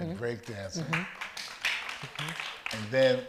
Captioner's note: audience applauds